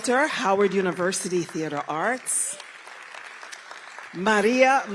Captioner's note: applause